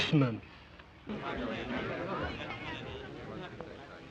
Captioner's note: indistinct chatter